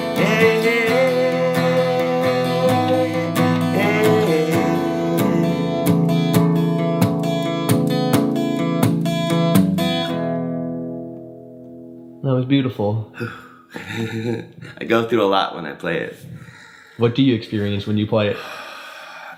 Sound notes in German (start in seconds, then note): 6.4 sanfte Gitarrenmusik; 13.6 lacht